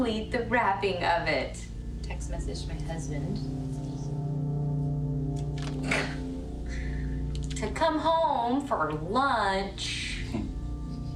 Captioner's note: laughs